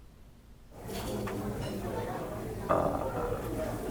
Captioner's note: odd Chattering